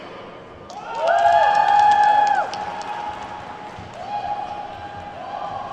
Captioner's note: attendees whooping and clapping